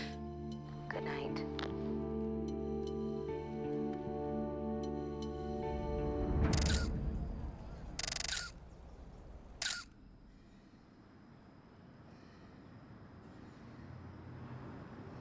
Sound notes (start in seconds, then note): 0.0 chuckles; 1.5 click; 6.5 <i> camera shutter clicking</i>